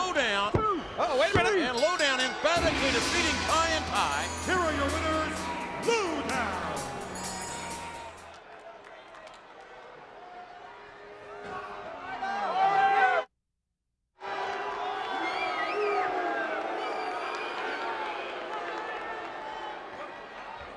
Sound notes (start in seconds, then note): 1.6 bell rings; 9.1 crowd chattering; 14.2 crowd boos